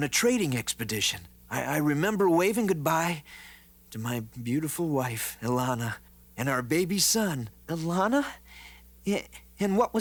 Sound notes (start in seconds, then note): none